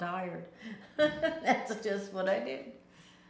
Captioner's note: laughing